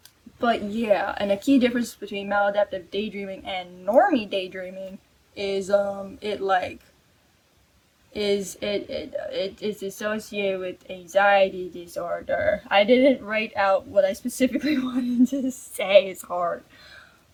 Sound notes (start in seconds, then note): 8.7 stammers